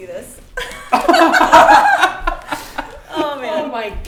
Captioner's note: they all laugh